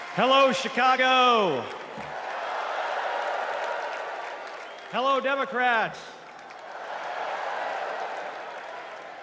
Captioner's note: cheers and applause